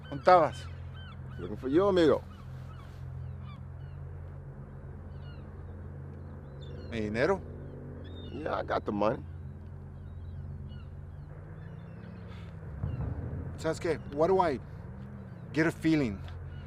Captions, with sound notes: Where were you? - Looking for you, amigo. (tense music continues) (gulls shrieking) - And the money? - Yeah. I got the money. - Tell me. Why do I get a feeling